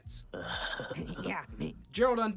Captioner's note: laugh